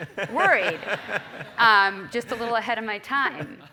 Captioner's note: laugh